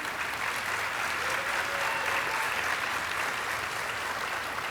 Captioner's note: audience applauding